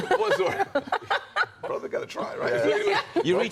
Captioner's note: laughter